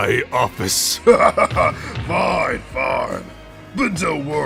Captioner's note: laughs